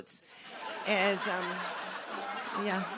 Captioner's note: laughter